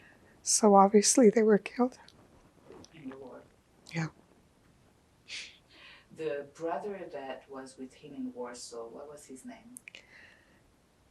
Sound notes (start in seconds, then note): 5.3 sniffing